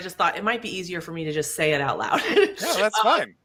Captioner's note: laughs